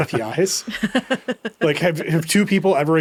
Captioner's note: laughing